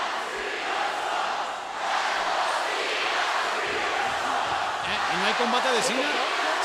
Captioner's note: applause